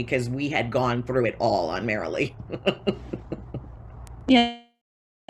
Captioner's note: laughs